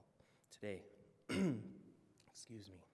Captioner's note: clears throat